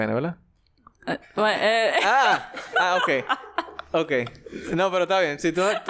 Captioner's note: laughs